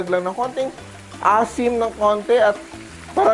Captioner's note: sizzle